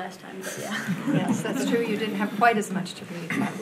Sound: audience laughing

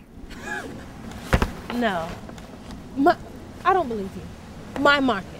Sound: laughs

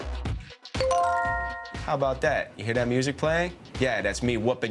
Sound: bell chimes

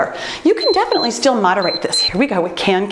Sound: timer beeps

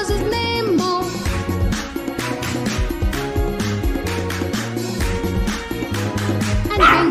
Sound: clap – Clap – Clap – Clap – Clap

